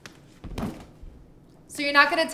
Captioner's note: backpack hitting the floor